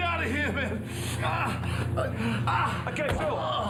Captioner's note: Phil grunts